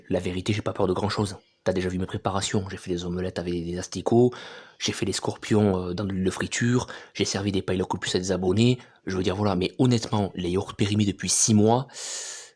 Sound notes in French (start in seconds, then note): none